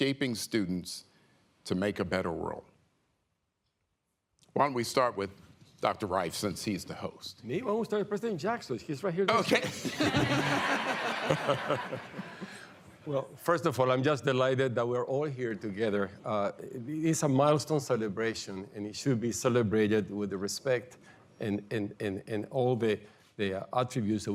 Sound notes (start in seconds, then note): 9.4 laughter